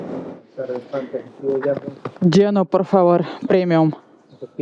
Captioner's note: in Spanish